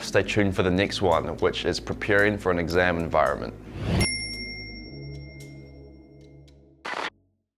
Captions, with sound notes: Stay tuned for the next one, which is preparing for an exam environment. (bell chime)